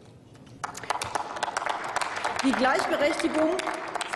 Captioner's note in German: Applaus